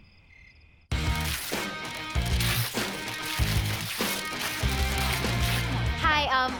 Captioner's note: dramatic music; paper tearing